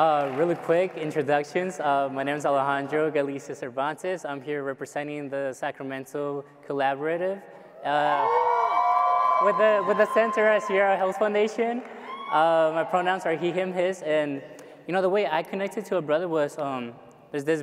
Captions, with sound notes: - Really quick introductions, my name is Alejandro Galicia Cervantes, I'm here representing the Sacramento Collaborative. (audience cheering) With the Centura Sierra Hills Foundation. My pronouns are he, him, his. The way I connected to a brother was this brother